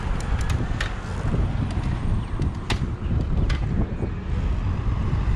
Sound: gears clicking; rotor cranking; wind gushing

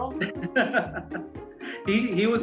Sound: laughing

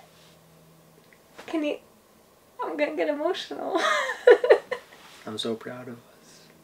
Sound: laughs

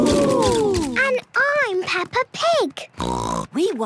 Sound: snort

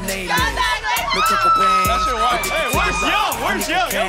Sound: cheering

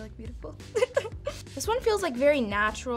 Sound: laughs

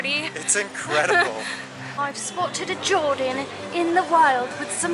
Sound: In a Steve Irwin Austrialian Outback accent

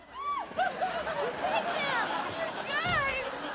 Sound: audience laughing

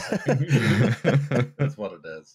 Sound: laughter

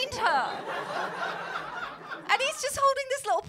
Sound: laughter

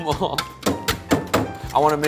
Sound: dishes clanking

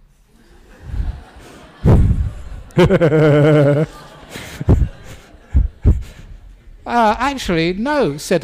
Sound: laughter

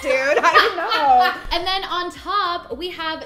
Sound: laughing

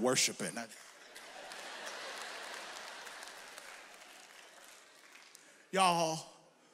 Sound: audience members clap; audience laughs

